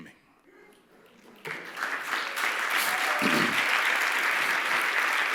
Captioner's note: applause